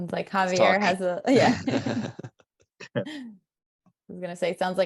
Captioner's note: laughter